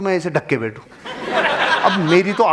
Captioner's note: laughing